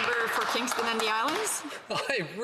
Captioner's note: some Applause